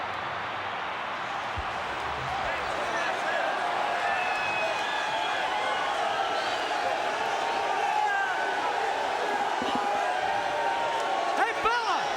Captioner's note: crowd chatter